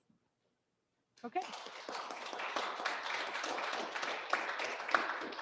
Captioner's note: audience claps